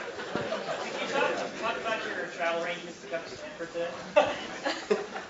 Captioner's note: laugh